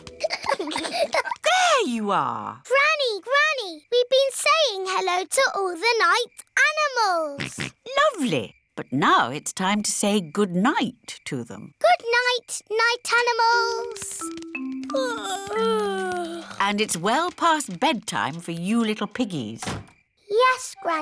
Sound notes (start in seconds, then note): 0.0 peppa and george giggling; 7.4 snorts; 15.0 yawning